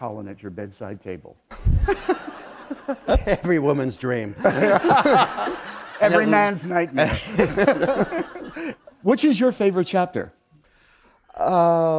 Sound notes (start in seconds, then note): 1.8 laughter